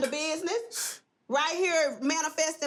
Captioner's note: scoff